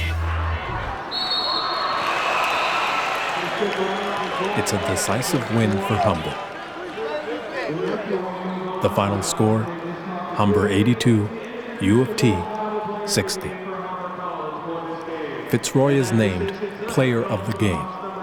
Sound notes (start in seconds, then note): 1.0 blast of whistle; 2.0 yelling